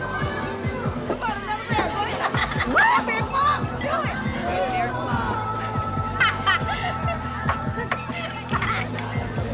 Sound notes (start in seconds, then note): 5.9 laughing